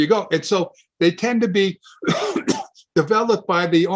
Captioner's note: coughs